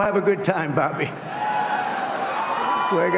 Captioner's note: applause